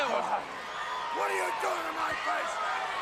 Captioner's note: crowd chatter